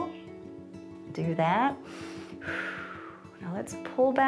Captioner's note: inhales and exhales